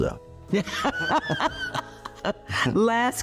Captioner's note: laughing